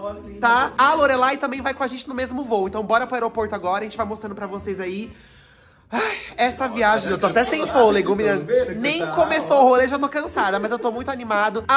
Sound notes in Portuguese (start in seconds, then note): 5.1 respira fundo